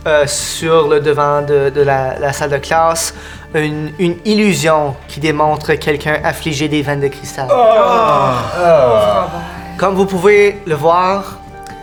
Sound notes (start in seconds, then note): 7.5 collective disgust